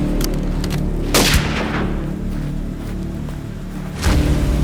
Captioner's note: gun fires